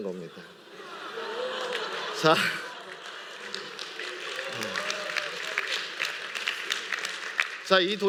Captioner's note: laughter and applause